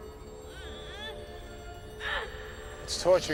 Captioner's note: tense eerie music; Banta groans